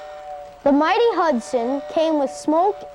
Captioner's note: train whistling